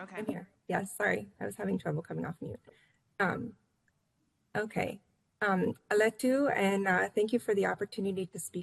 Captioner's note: foreign language